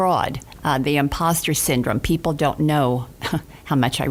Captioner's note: laughs